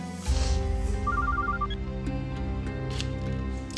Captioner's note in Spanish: suena el celular